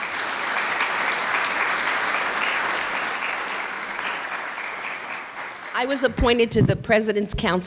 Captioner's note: clapping